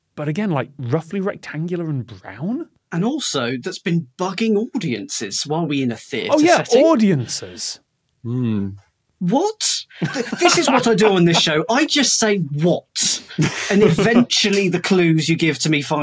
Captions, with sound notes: But again, roughly rectangular and brown? And also, that's been bugging audiences. What, are we in a theatre setting? Oh yeah, audiences! Mm. What? (laughs) This is what I do on this show. I just say, "What?" And eventually, the clues you give to me